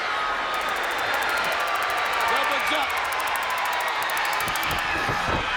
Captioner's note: stun gun zapping